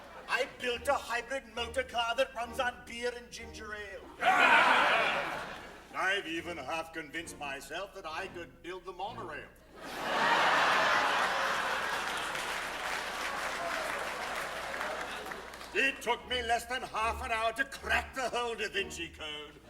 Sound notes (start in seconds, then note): 9.7 laughter, applause